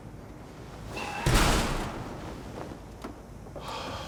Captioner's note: door thuds; Tommy huffing; pensive music